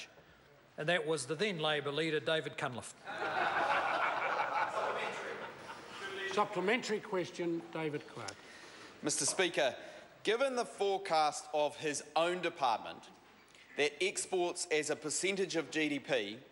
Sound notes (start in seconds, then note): 3.0 members laugh and talk loudly